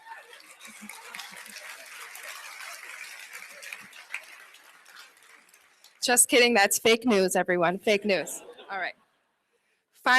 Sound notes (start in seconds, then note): 0.0 clapping